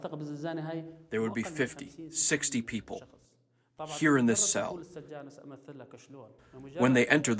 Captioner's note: voice-over; through translator